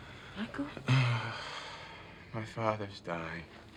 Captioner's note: sighs